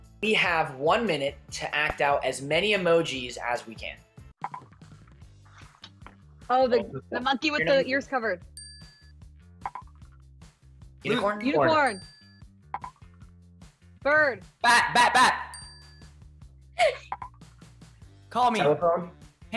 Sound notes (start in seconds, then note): 8.6 bell dings; 15.5 bell dings; 16.8 giggles